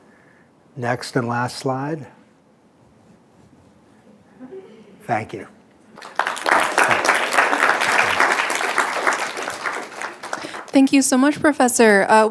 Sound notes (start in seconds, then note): 5.9 applause